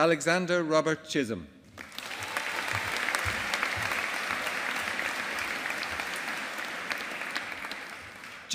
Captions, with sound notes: Alexander Robert Chisholm. (AUDIENCE APPLAUDING)